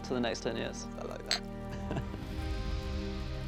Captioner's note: chuckling